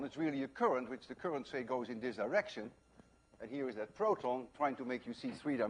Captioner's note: none